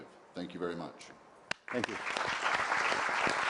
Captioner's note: applause